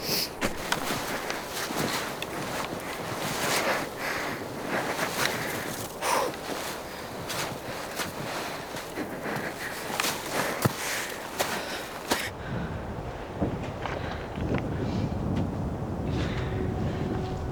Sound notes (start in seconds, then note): 0.3 snow shuffling; 6.5 breathing heavily; 13.0 wind blowing